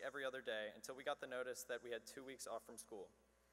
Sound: none

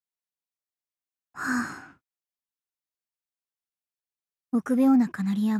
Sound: sigh

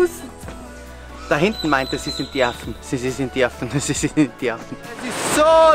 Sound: laughs

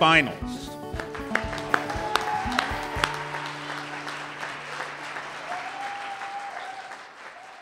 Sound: cheers and applause

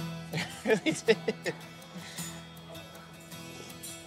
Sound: chuckles

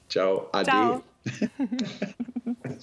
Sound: in German

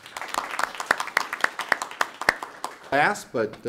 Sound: audience applauds

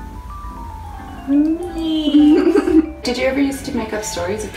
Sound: both laughing

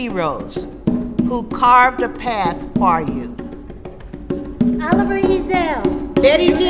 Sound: background voices call out names

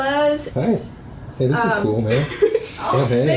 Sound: laughs

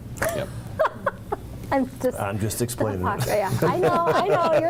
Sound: laughs; laughs

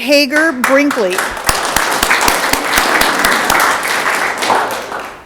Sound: audience clapping

